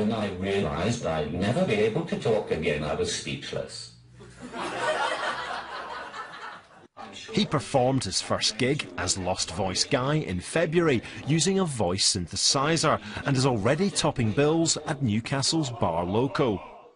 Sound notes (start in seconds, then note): 4.2 audience laughter